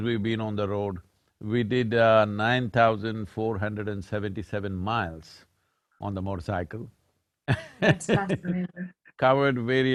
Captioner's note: laughs